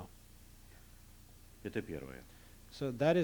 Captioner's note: non-english speech